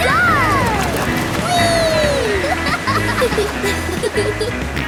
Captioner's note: laughing